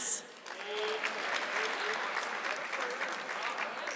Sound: audience clapping

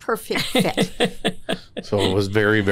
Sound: laughter

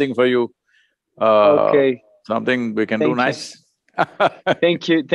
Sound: laughs

